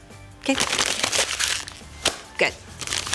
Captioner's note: paper crunching